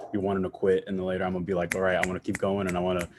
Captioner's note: snaps fingers